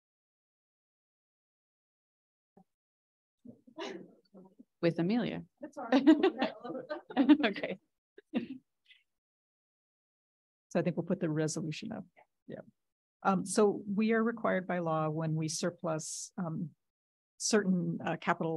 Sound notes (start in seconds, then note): 5.9 audience laughing